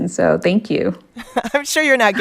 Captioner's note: laughter